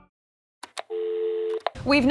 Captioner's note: click; dial tone